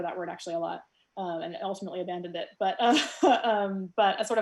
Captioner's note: soft giggles